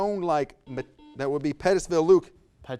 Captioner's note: buzzer buzzes